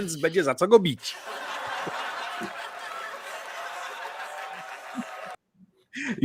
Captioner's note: audience laughter